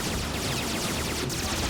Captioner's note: explosions